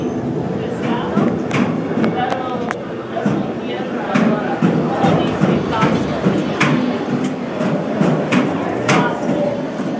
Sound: footsteps clanging up metal stairs

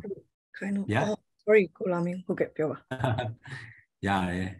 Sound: In Burmese

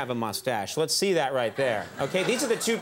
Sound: audience chuckles

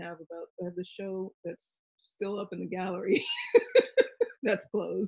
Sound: laughs

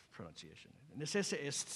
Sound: non-english speech

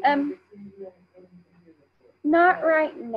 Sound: speaking faintly

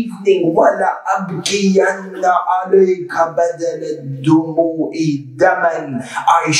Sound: Arabic

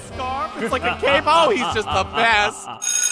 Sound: evil chuckle

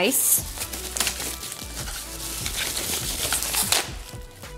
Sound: papers ruffling

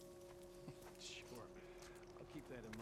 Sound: laugh

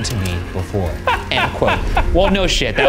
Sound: laughs

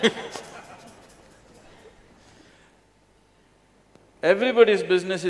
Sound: laughter

